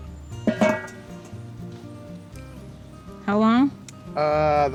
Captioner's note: lid closes